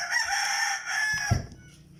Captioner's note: rooster crowed